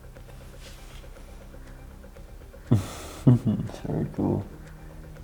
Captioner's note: laughs